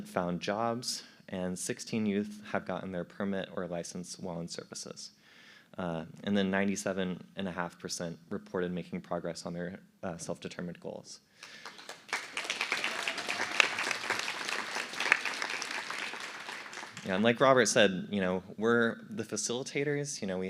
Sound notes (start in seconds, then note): 11.4 applause